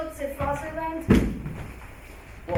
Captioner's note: pillow thuds